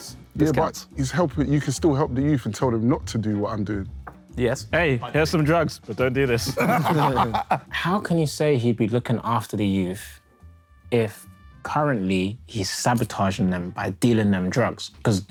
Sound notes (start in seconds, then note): 6.4 Sidemen laugh